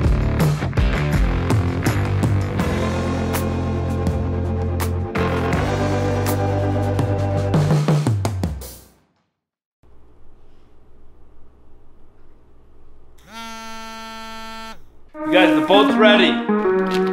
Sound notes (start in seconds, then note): 13.2 phone vibrating